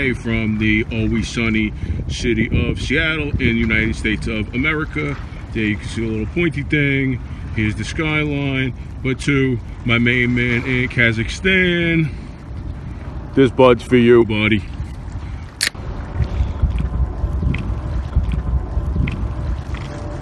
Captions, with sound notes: from the always-sunny city of Seattle in the United States of America there you can see the little pointy thing here's the skyline but to my main man in Kazakhstan This Bud's for you, buddy (can opening) (drinking sounds)